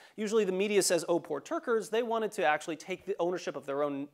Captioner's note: none